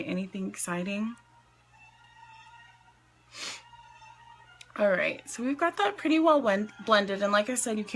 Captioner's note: sniffs